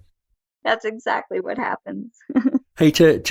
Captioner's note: laughs